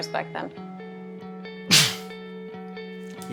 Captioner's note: coughs